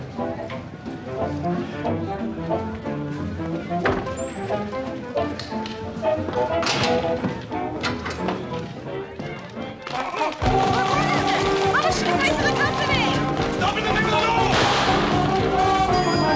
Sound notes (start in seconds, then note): 14.5 gunshot